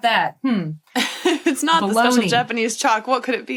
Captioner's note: laughs